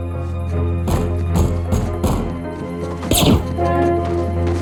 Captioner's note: banging on door; gun pops